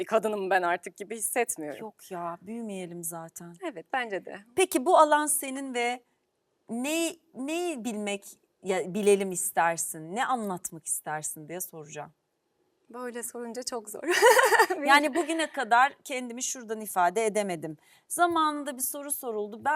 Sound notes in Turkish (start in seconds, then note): 14.0 kahkaha